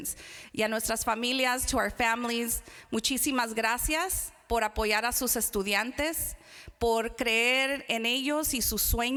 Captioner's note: foreign Language Spoken